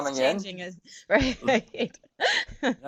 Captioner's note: laugh